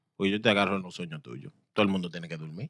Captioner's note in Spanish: Hablando en idioma extranjero